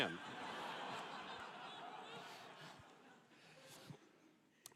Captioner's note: laughter